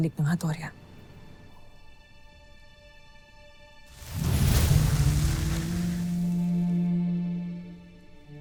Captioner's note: infernal whoosh-crackle; pensive music playing